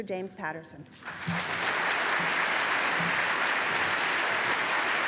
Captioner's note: applause